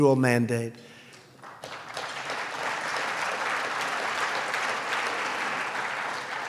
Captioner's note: applause